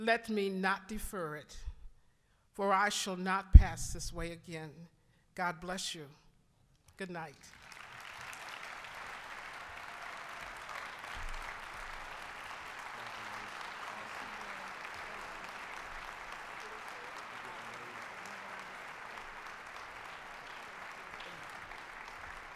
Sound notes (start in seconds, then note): 7.3 applause